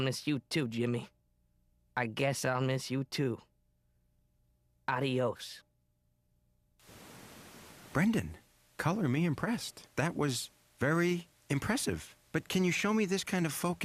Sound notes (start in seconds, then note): 6.8 static